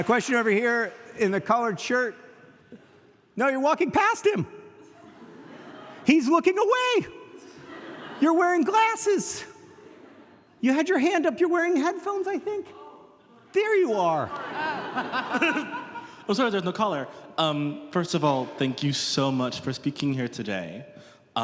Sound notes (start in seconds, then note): 13.2 audience laughing